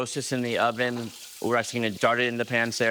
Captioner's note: oil sizzles in pan